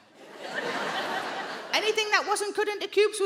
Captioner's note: audience laughing